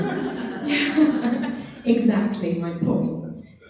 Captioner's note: laughing